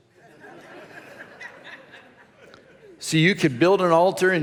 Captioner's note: congregation laughs